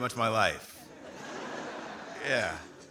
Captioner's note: audience laughing